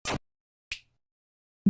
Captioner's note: snap